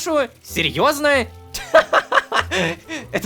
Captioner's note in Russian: Кха-ха-ха-ха-ха! Кх-х